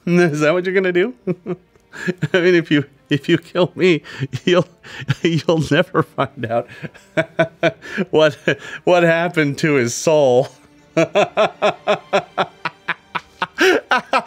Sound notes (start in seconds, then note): 1.3 laughs; 10.9 laughs manically